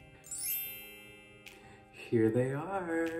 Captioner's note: intergalactic sound effect; chimes